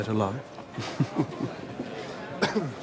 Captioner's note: <i> chuckles</i>